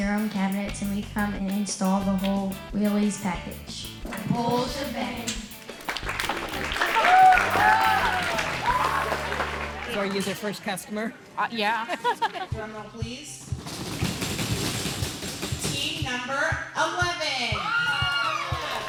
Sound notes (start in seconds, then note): 5.6 all applaud and cheer; 11.7 laughs; 13.6 children banging